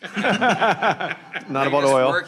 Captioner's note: attendees laughing